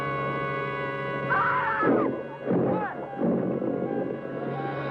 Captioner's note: screaming